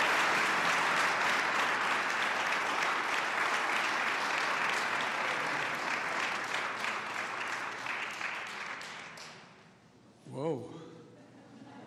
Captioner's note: applause